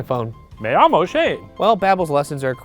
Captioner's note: speaking Spanish